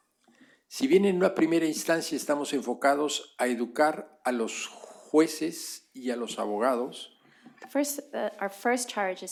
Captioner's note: speaking spanish